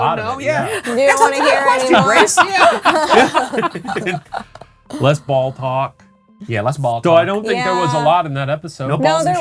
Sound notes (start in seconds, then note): 2.2 group laughing